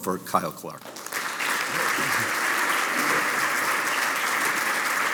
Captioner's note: audience applauding